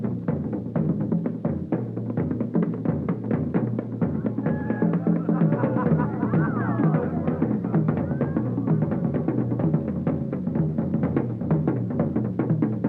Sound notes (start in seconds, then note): 4.1 crowd laughs; 9.2 rhythmic drumming music